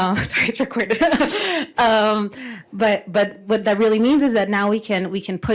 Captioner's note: laughs